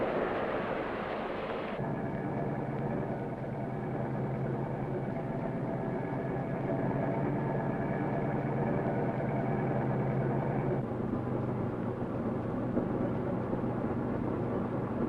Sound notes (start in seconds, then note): 2.0 sound of machinery